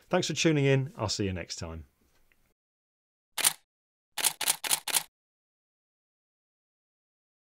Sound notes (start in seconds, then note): 2.4 camera shutter clicking